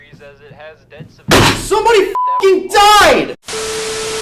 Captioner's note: bang